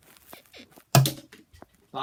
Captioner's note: bed squeaks